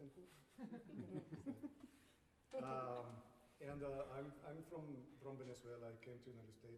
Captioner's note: laughter